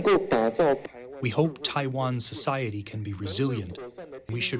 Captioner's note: through translator